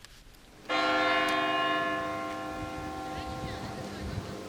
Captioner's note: church bells ringing